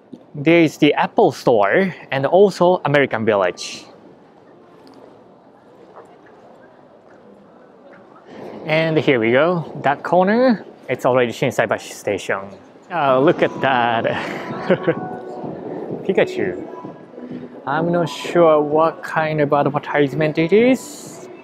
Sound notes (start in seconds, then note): 15.1 chuckles